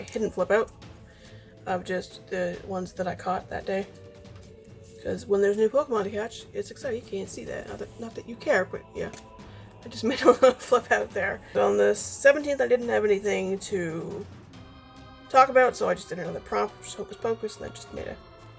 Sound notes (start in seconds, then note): 10.0 laughing